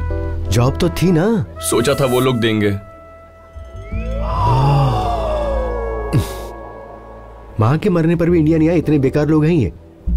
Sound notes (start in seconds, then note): 4.2 gasping